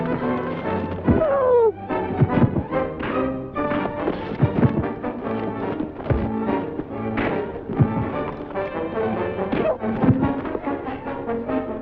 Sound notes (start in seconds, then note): 1.2 man groans